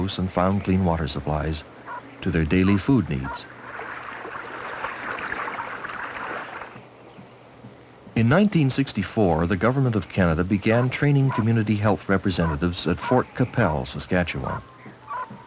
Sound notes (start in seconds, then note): 3.6 water pouring, splashing; 11.3 dog barking